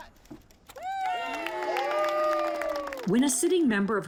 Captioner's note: cheering